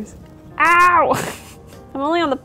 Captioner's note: laughs